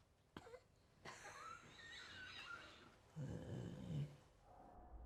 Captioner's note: coughing; coughs